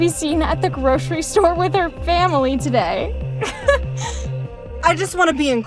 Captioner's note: laughs